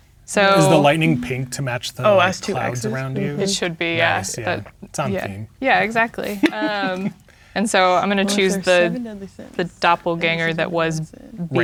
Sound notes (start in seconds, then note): 6.2 chuckling